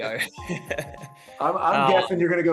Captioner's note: laughs